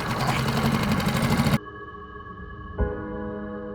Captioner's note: engine roaring